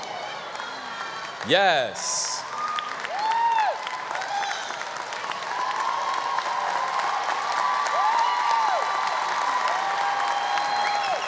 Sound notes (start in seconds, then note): 3.0 audience clapping and cheering